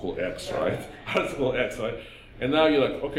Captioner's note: laughing